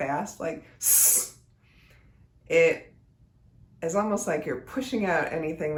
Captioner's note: hisses